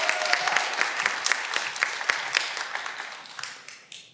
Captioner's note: cheering